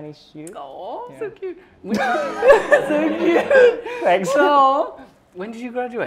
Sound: laughter

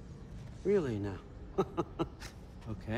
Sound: laughs

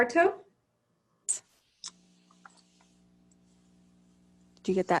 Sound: clicking

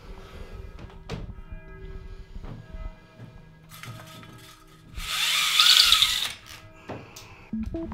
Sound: clock tower bell ringing

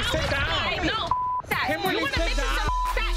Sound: beep

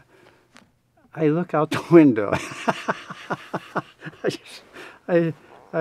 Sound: laughs

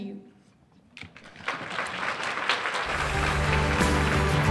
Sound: applause

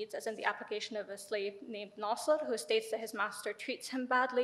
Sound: speaks in foreign language

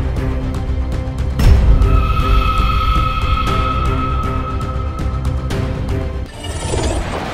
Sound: scary Voice

